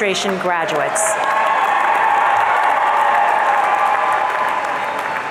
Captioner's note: audience cheering